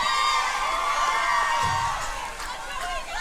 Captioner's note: crowd chanting